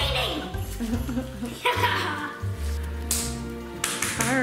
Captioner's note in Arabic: يضحك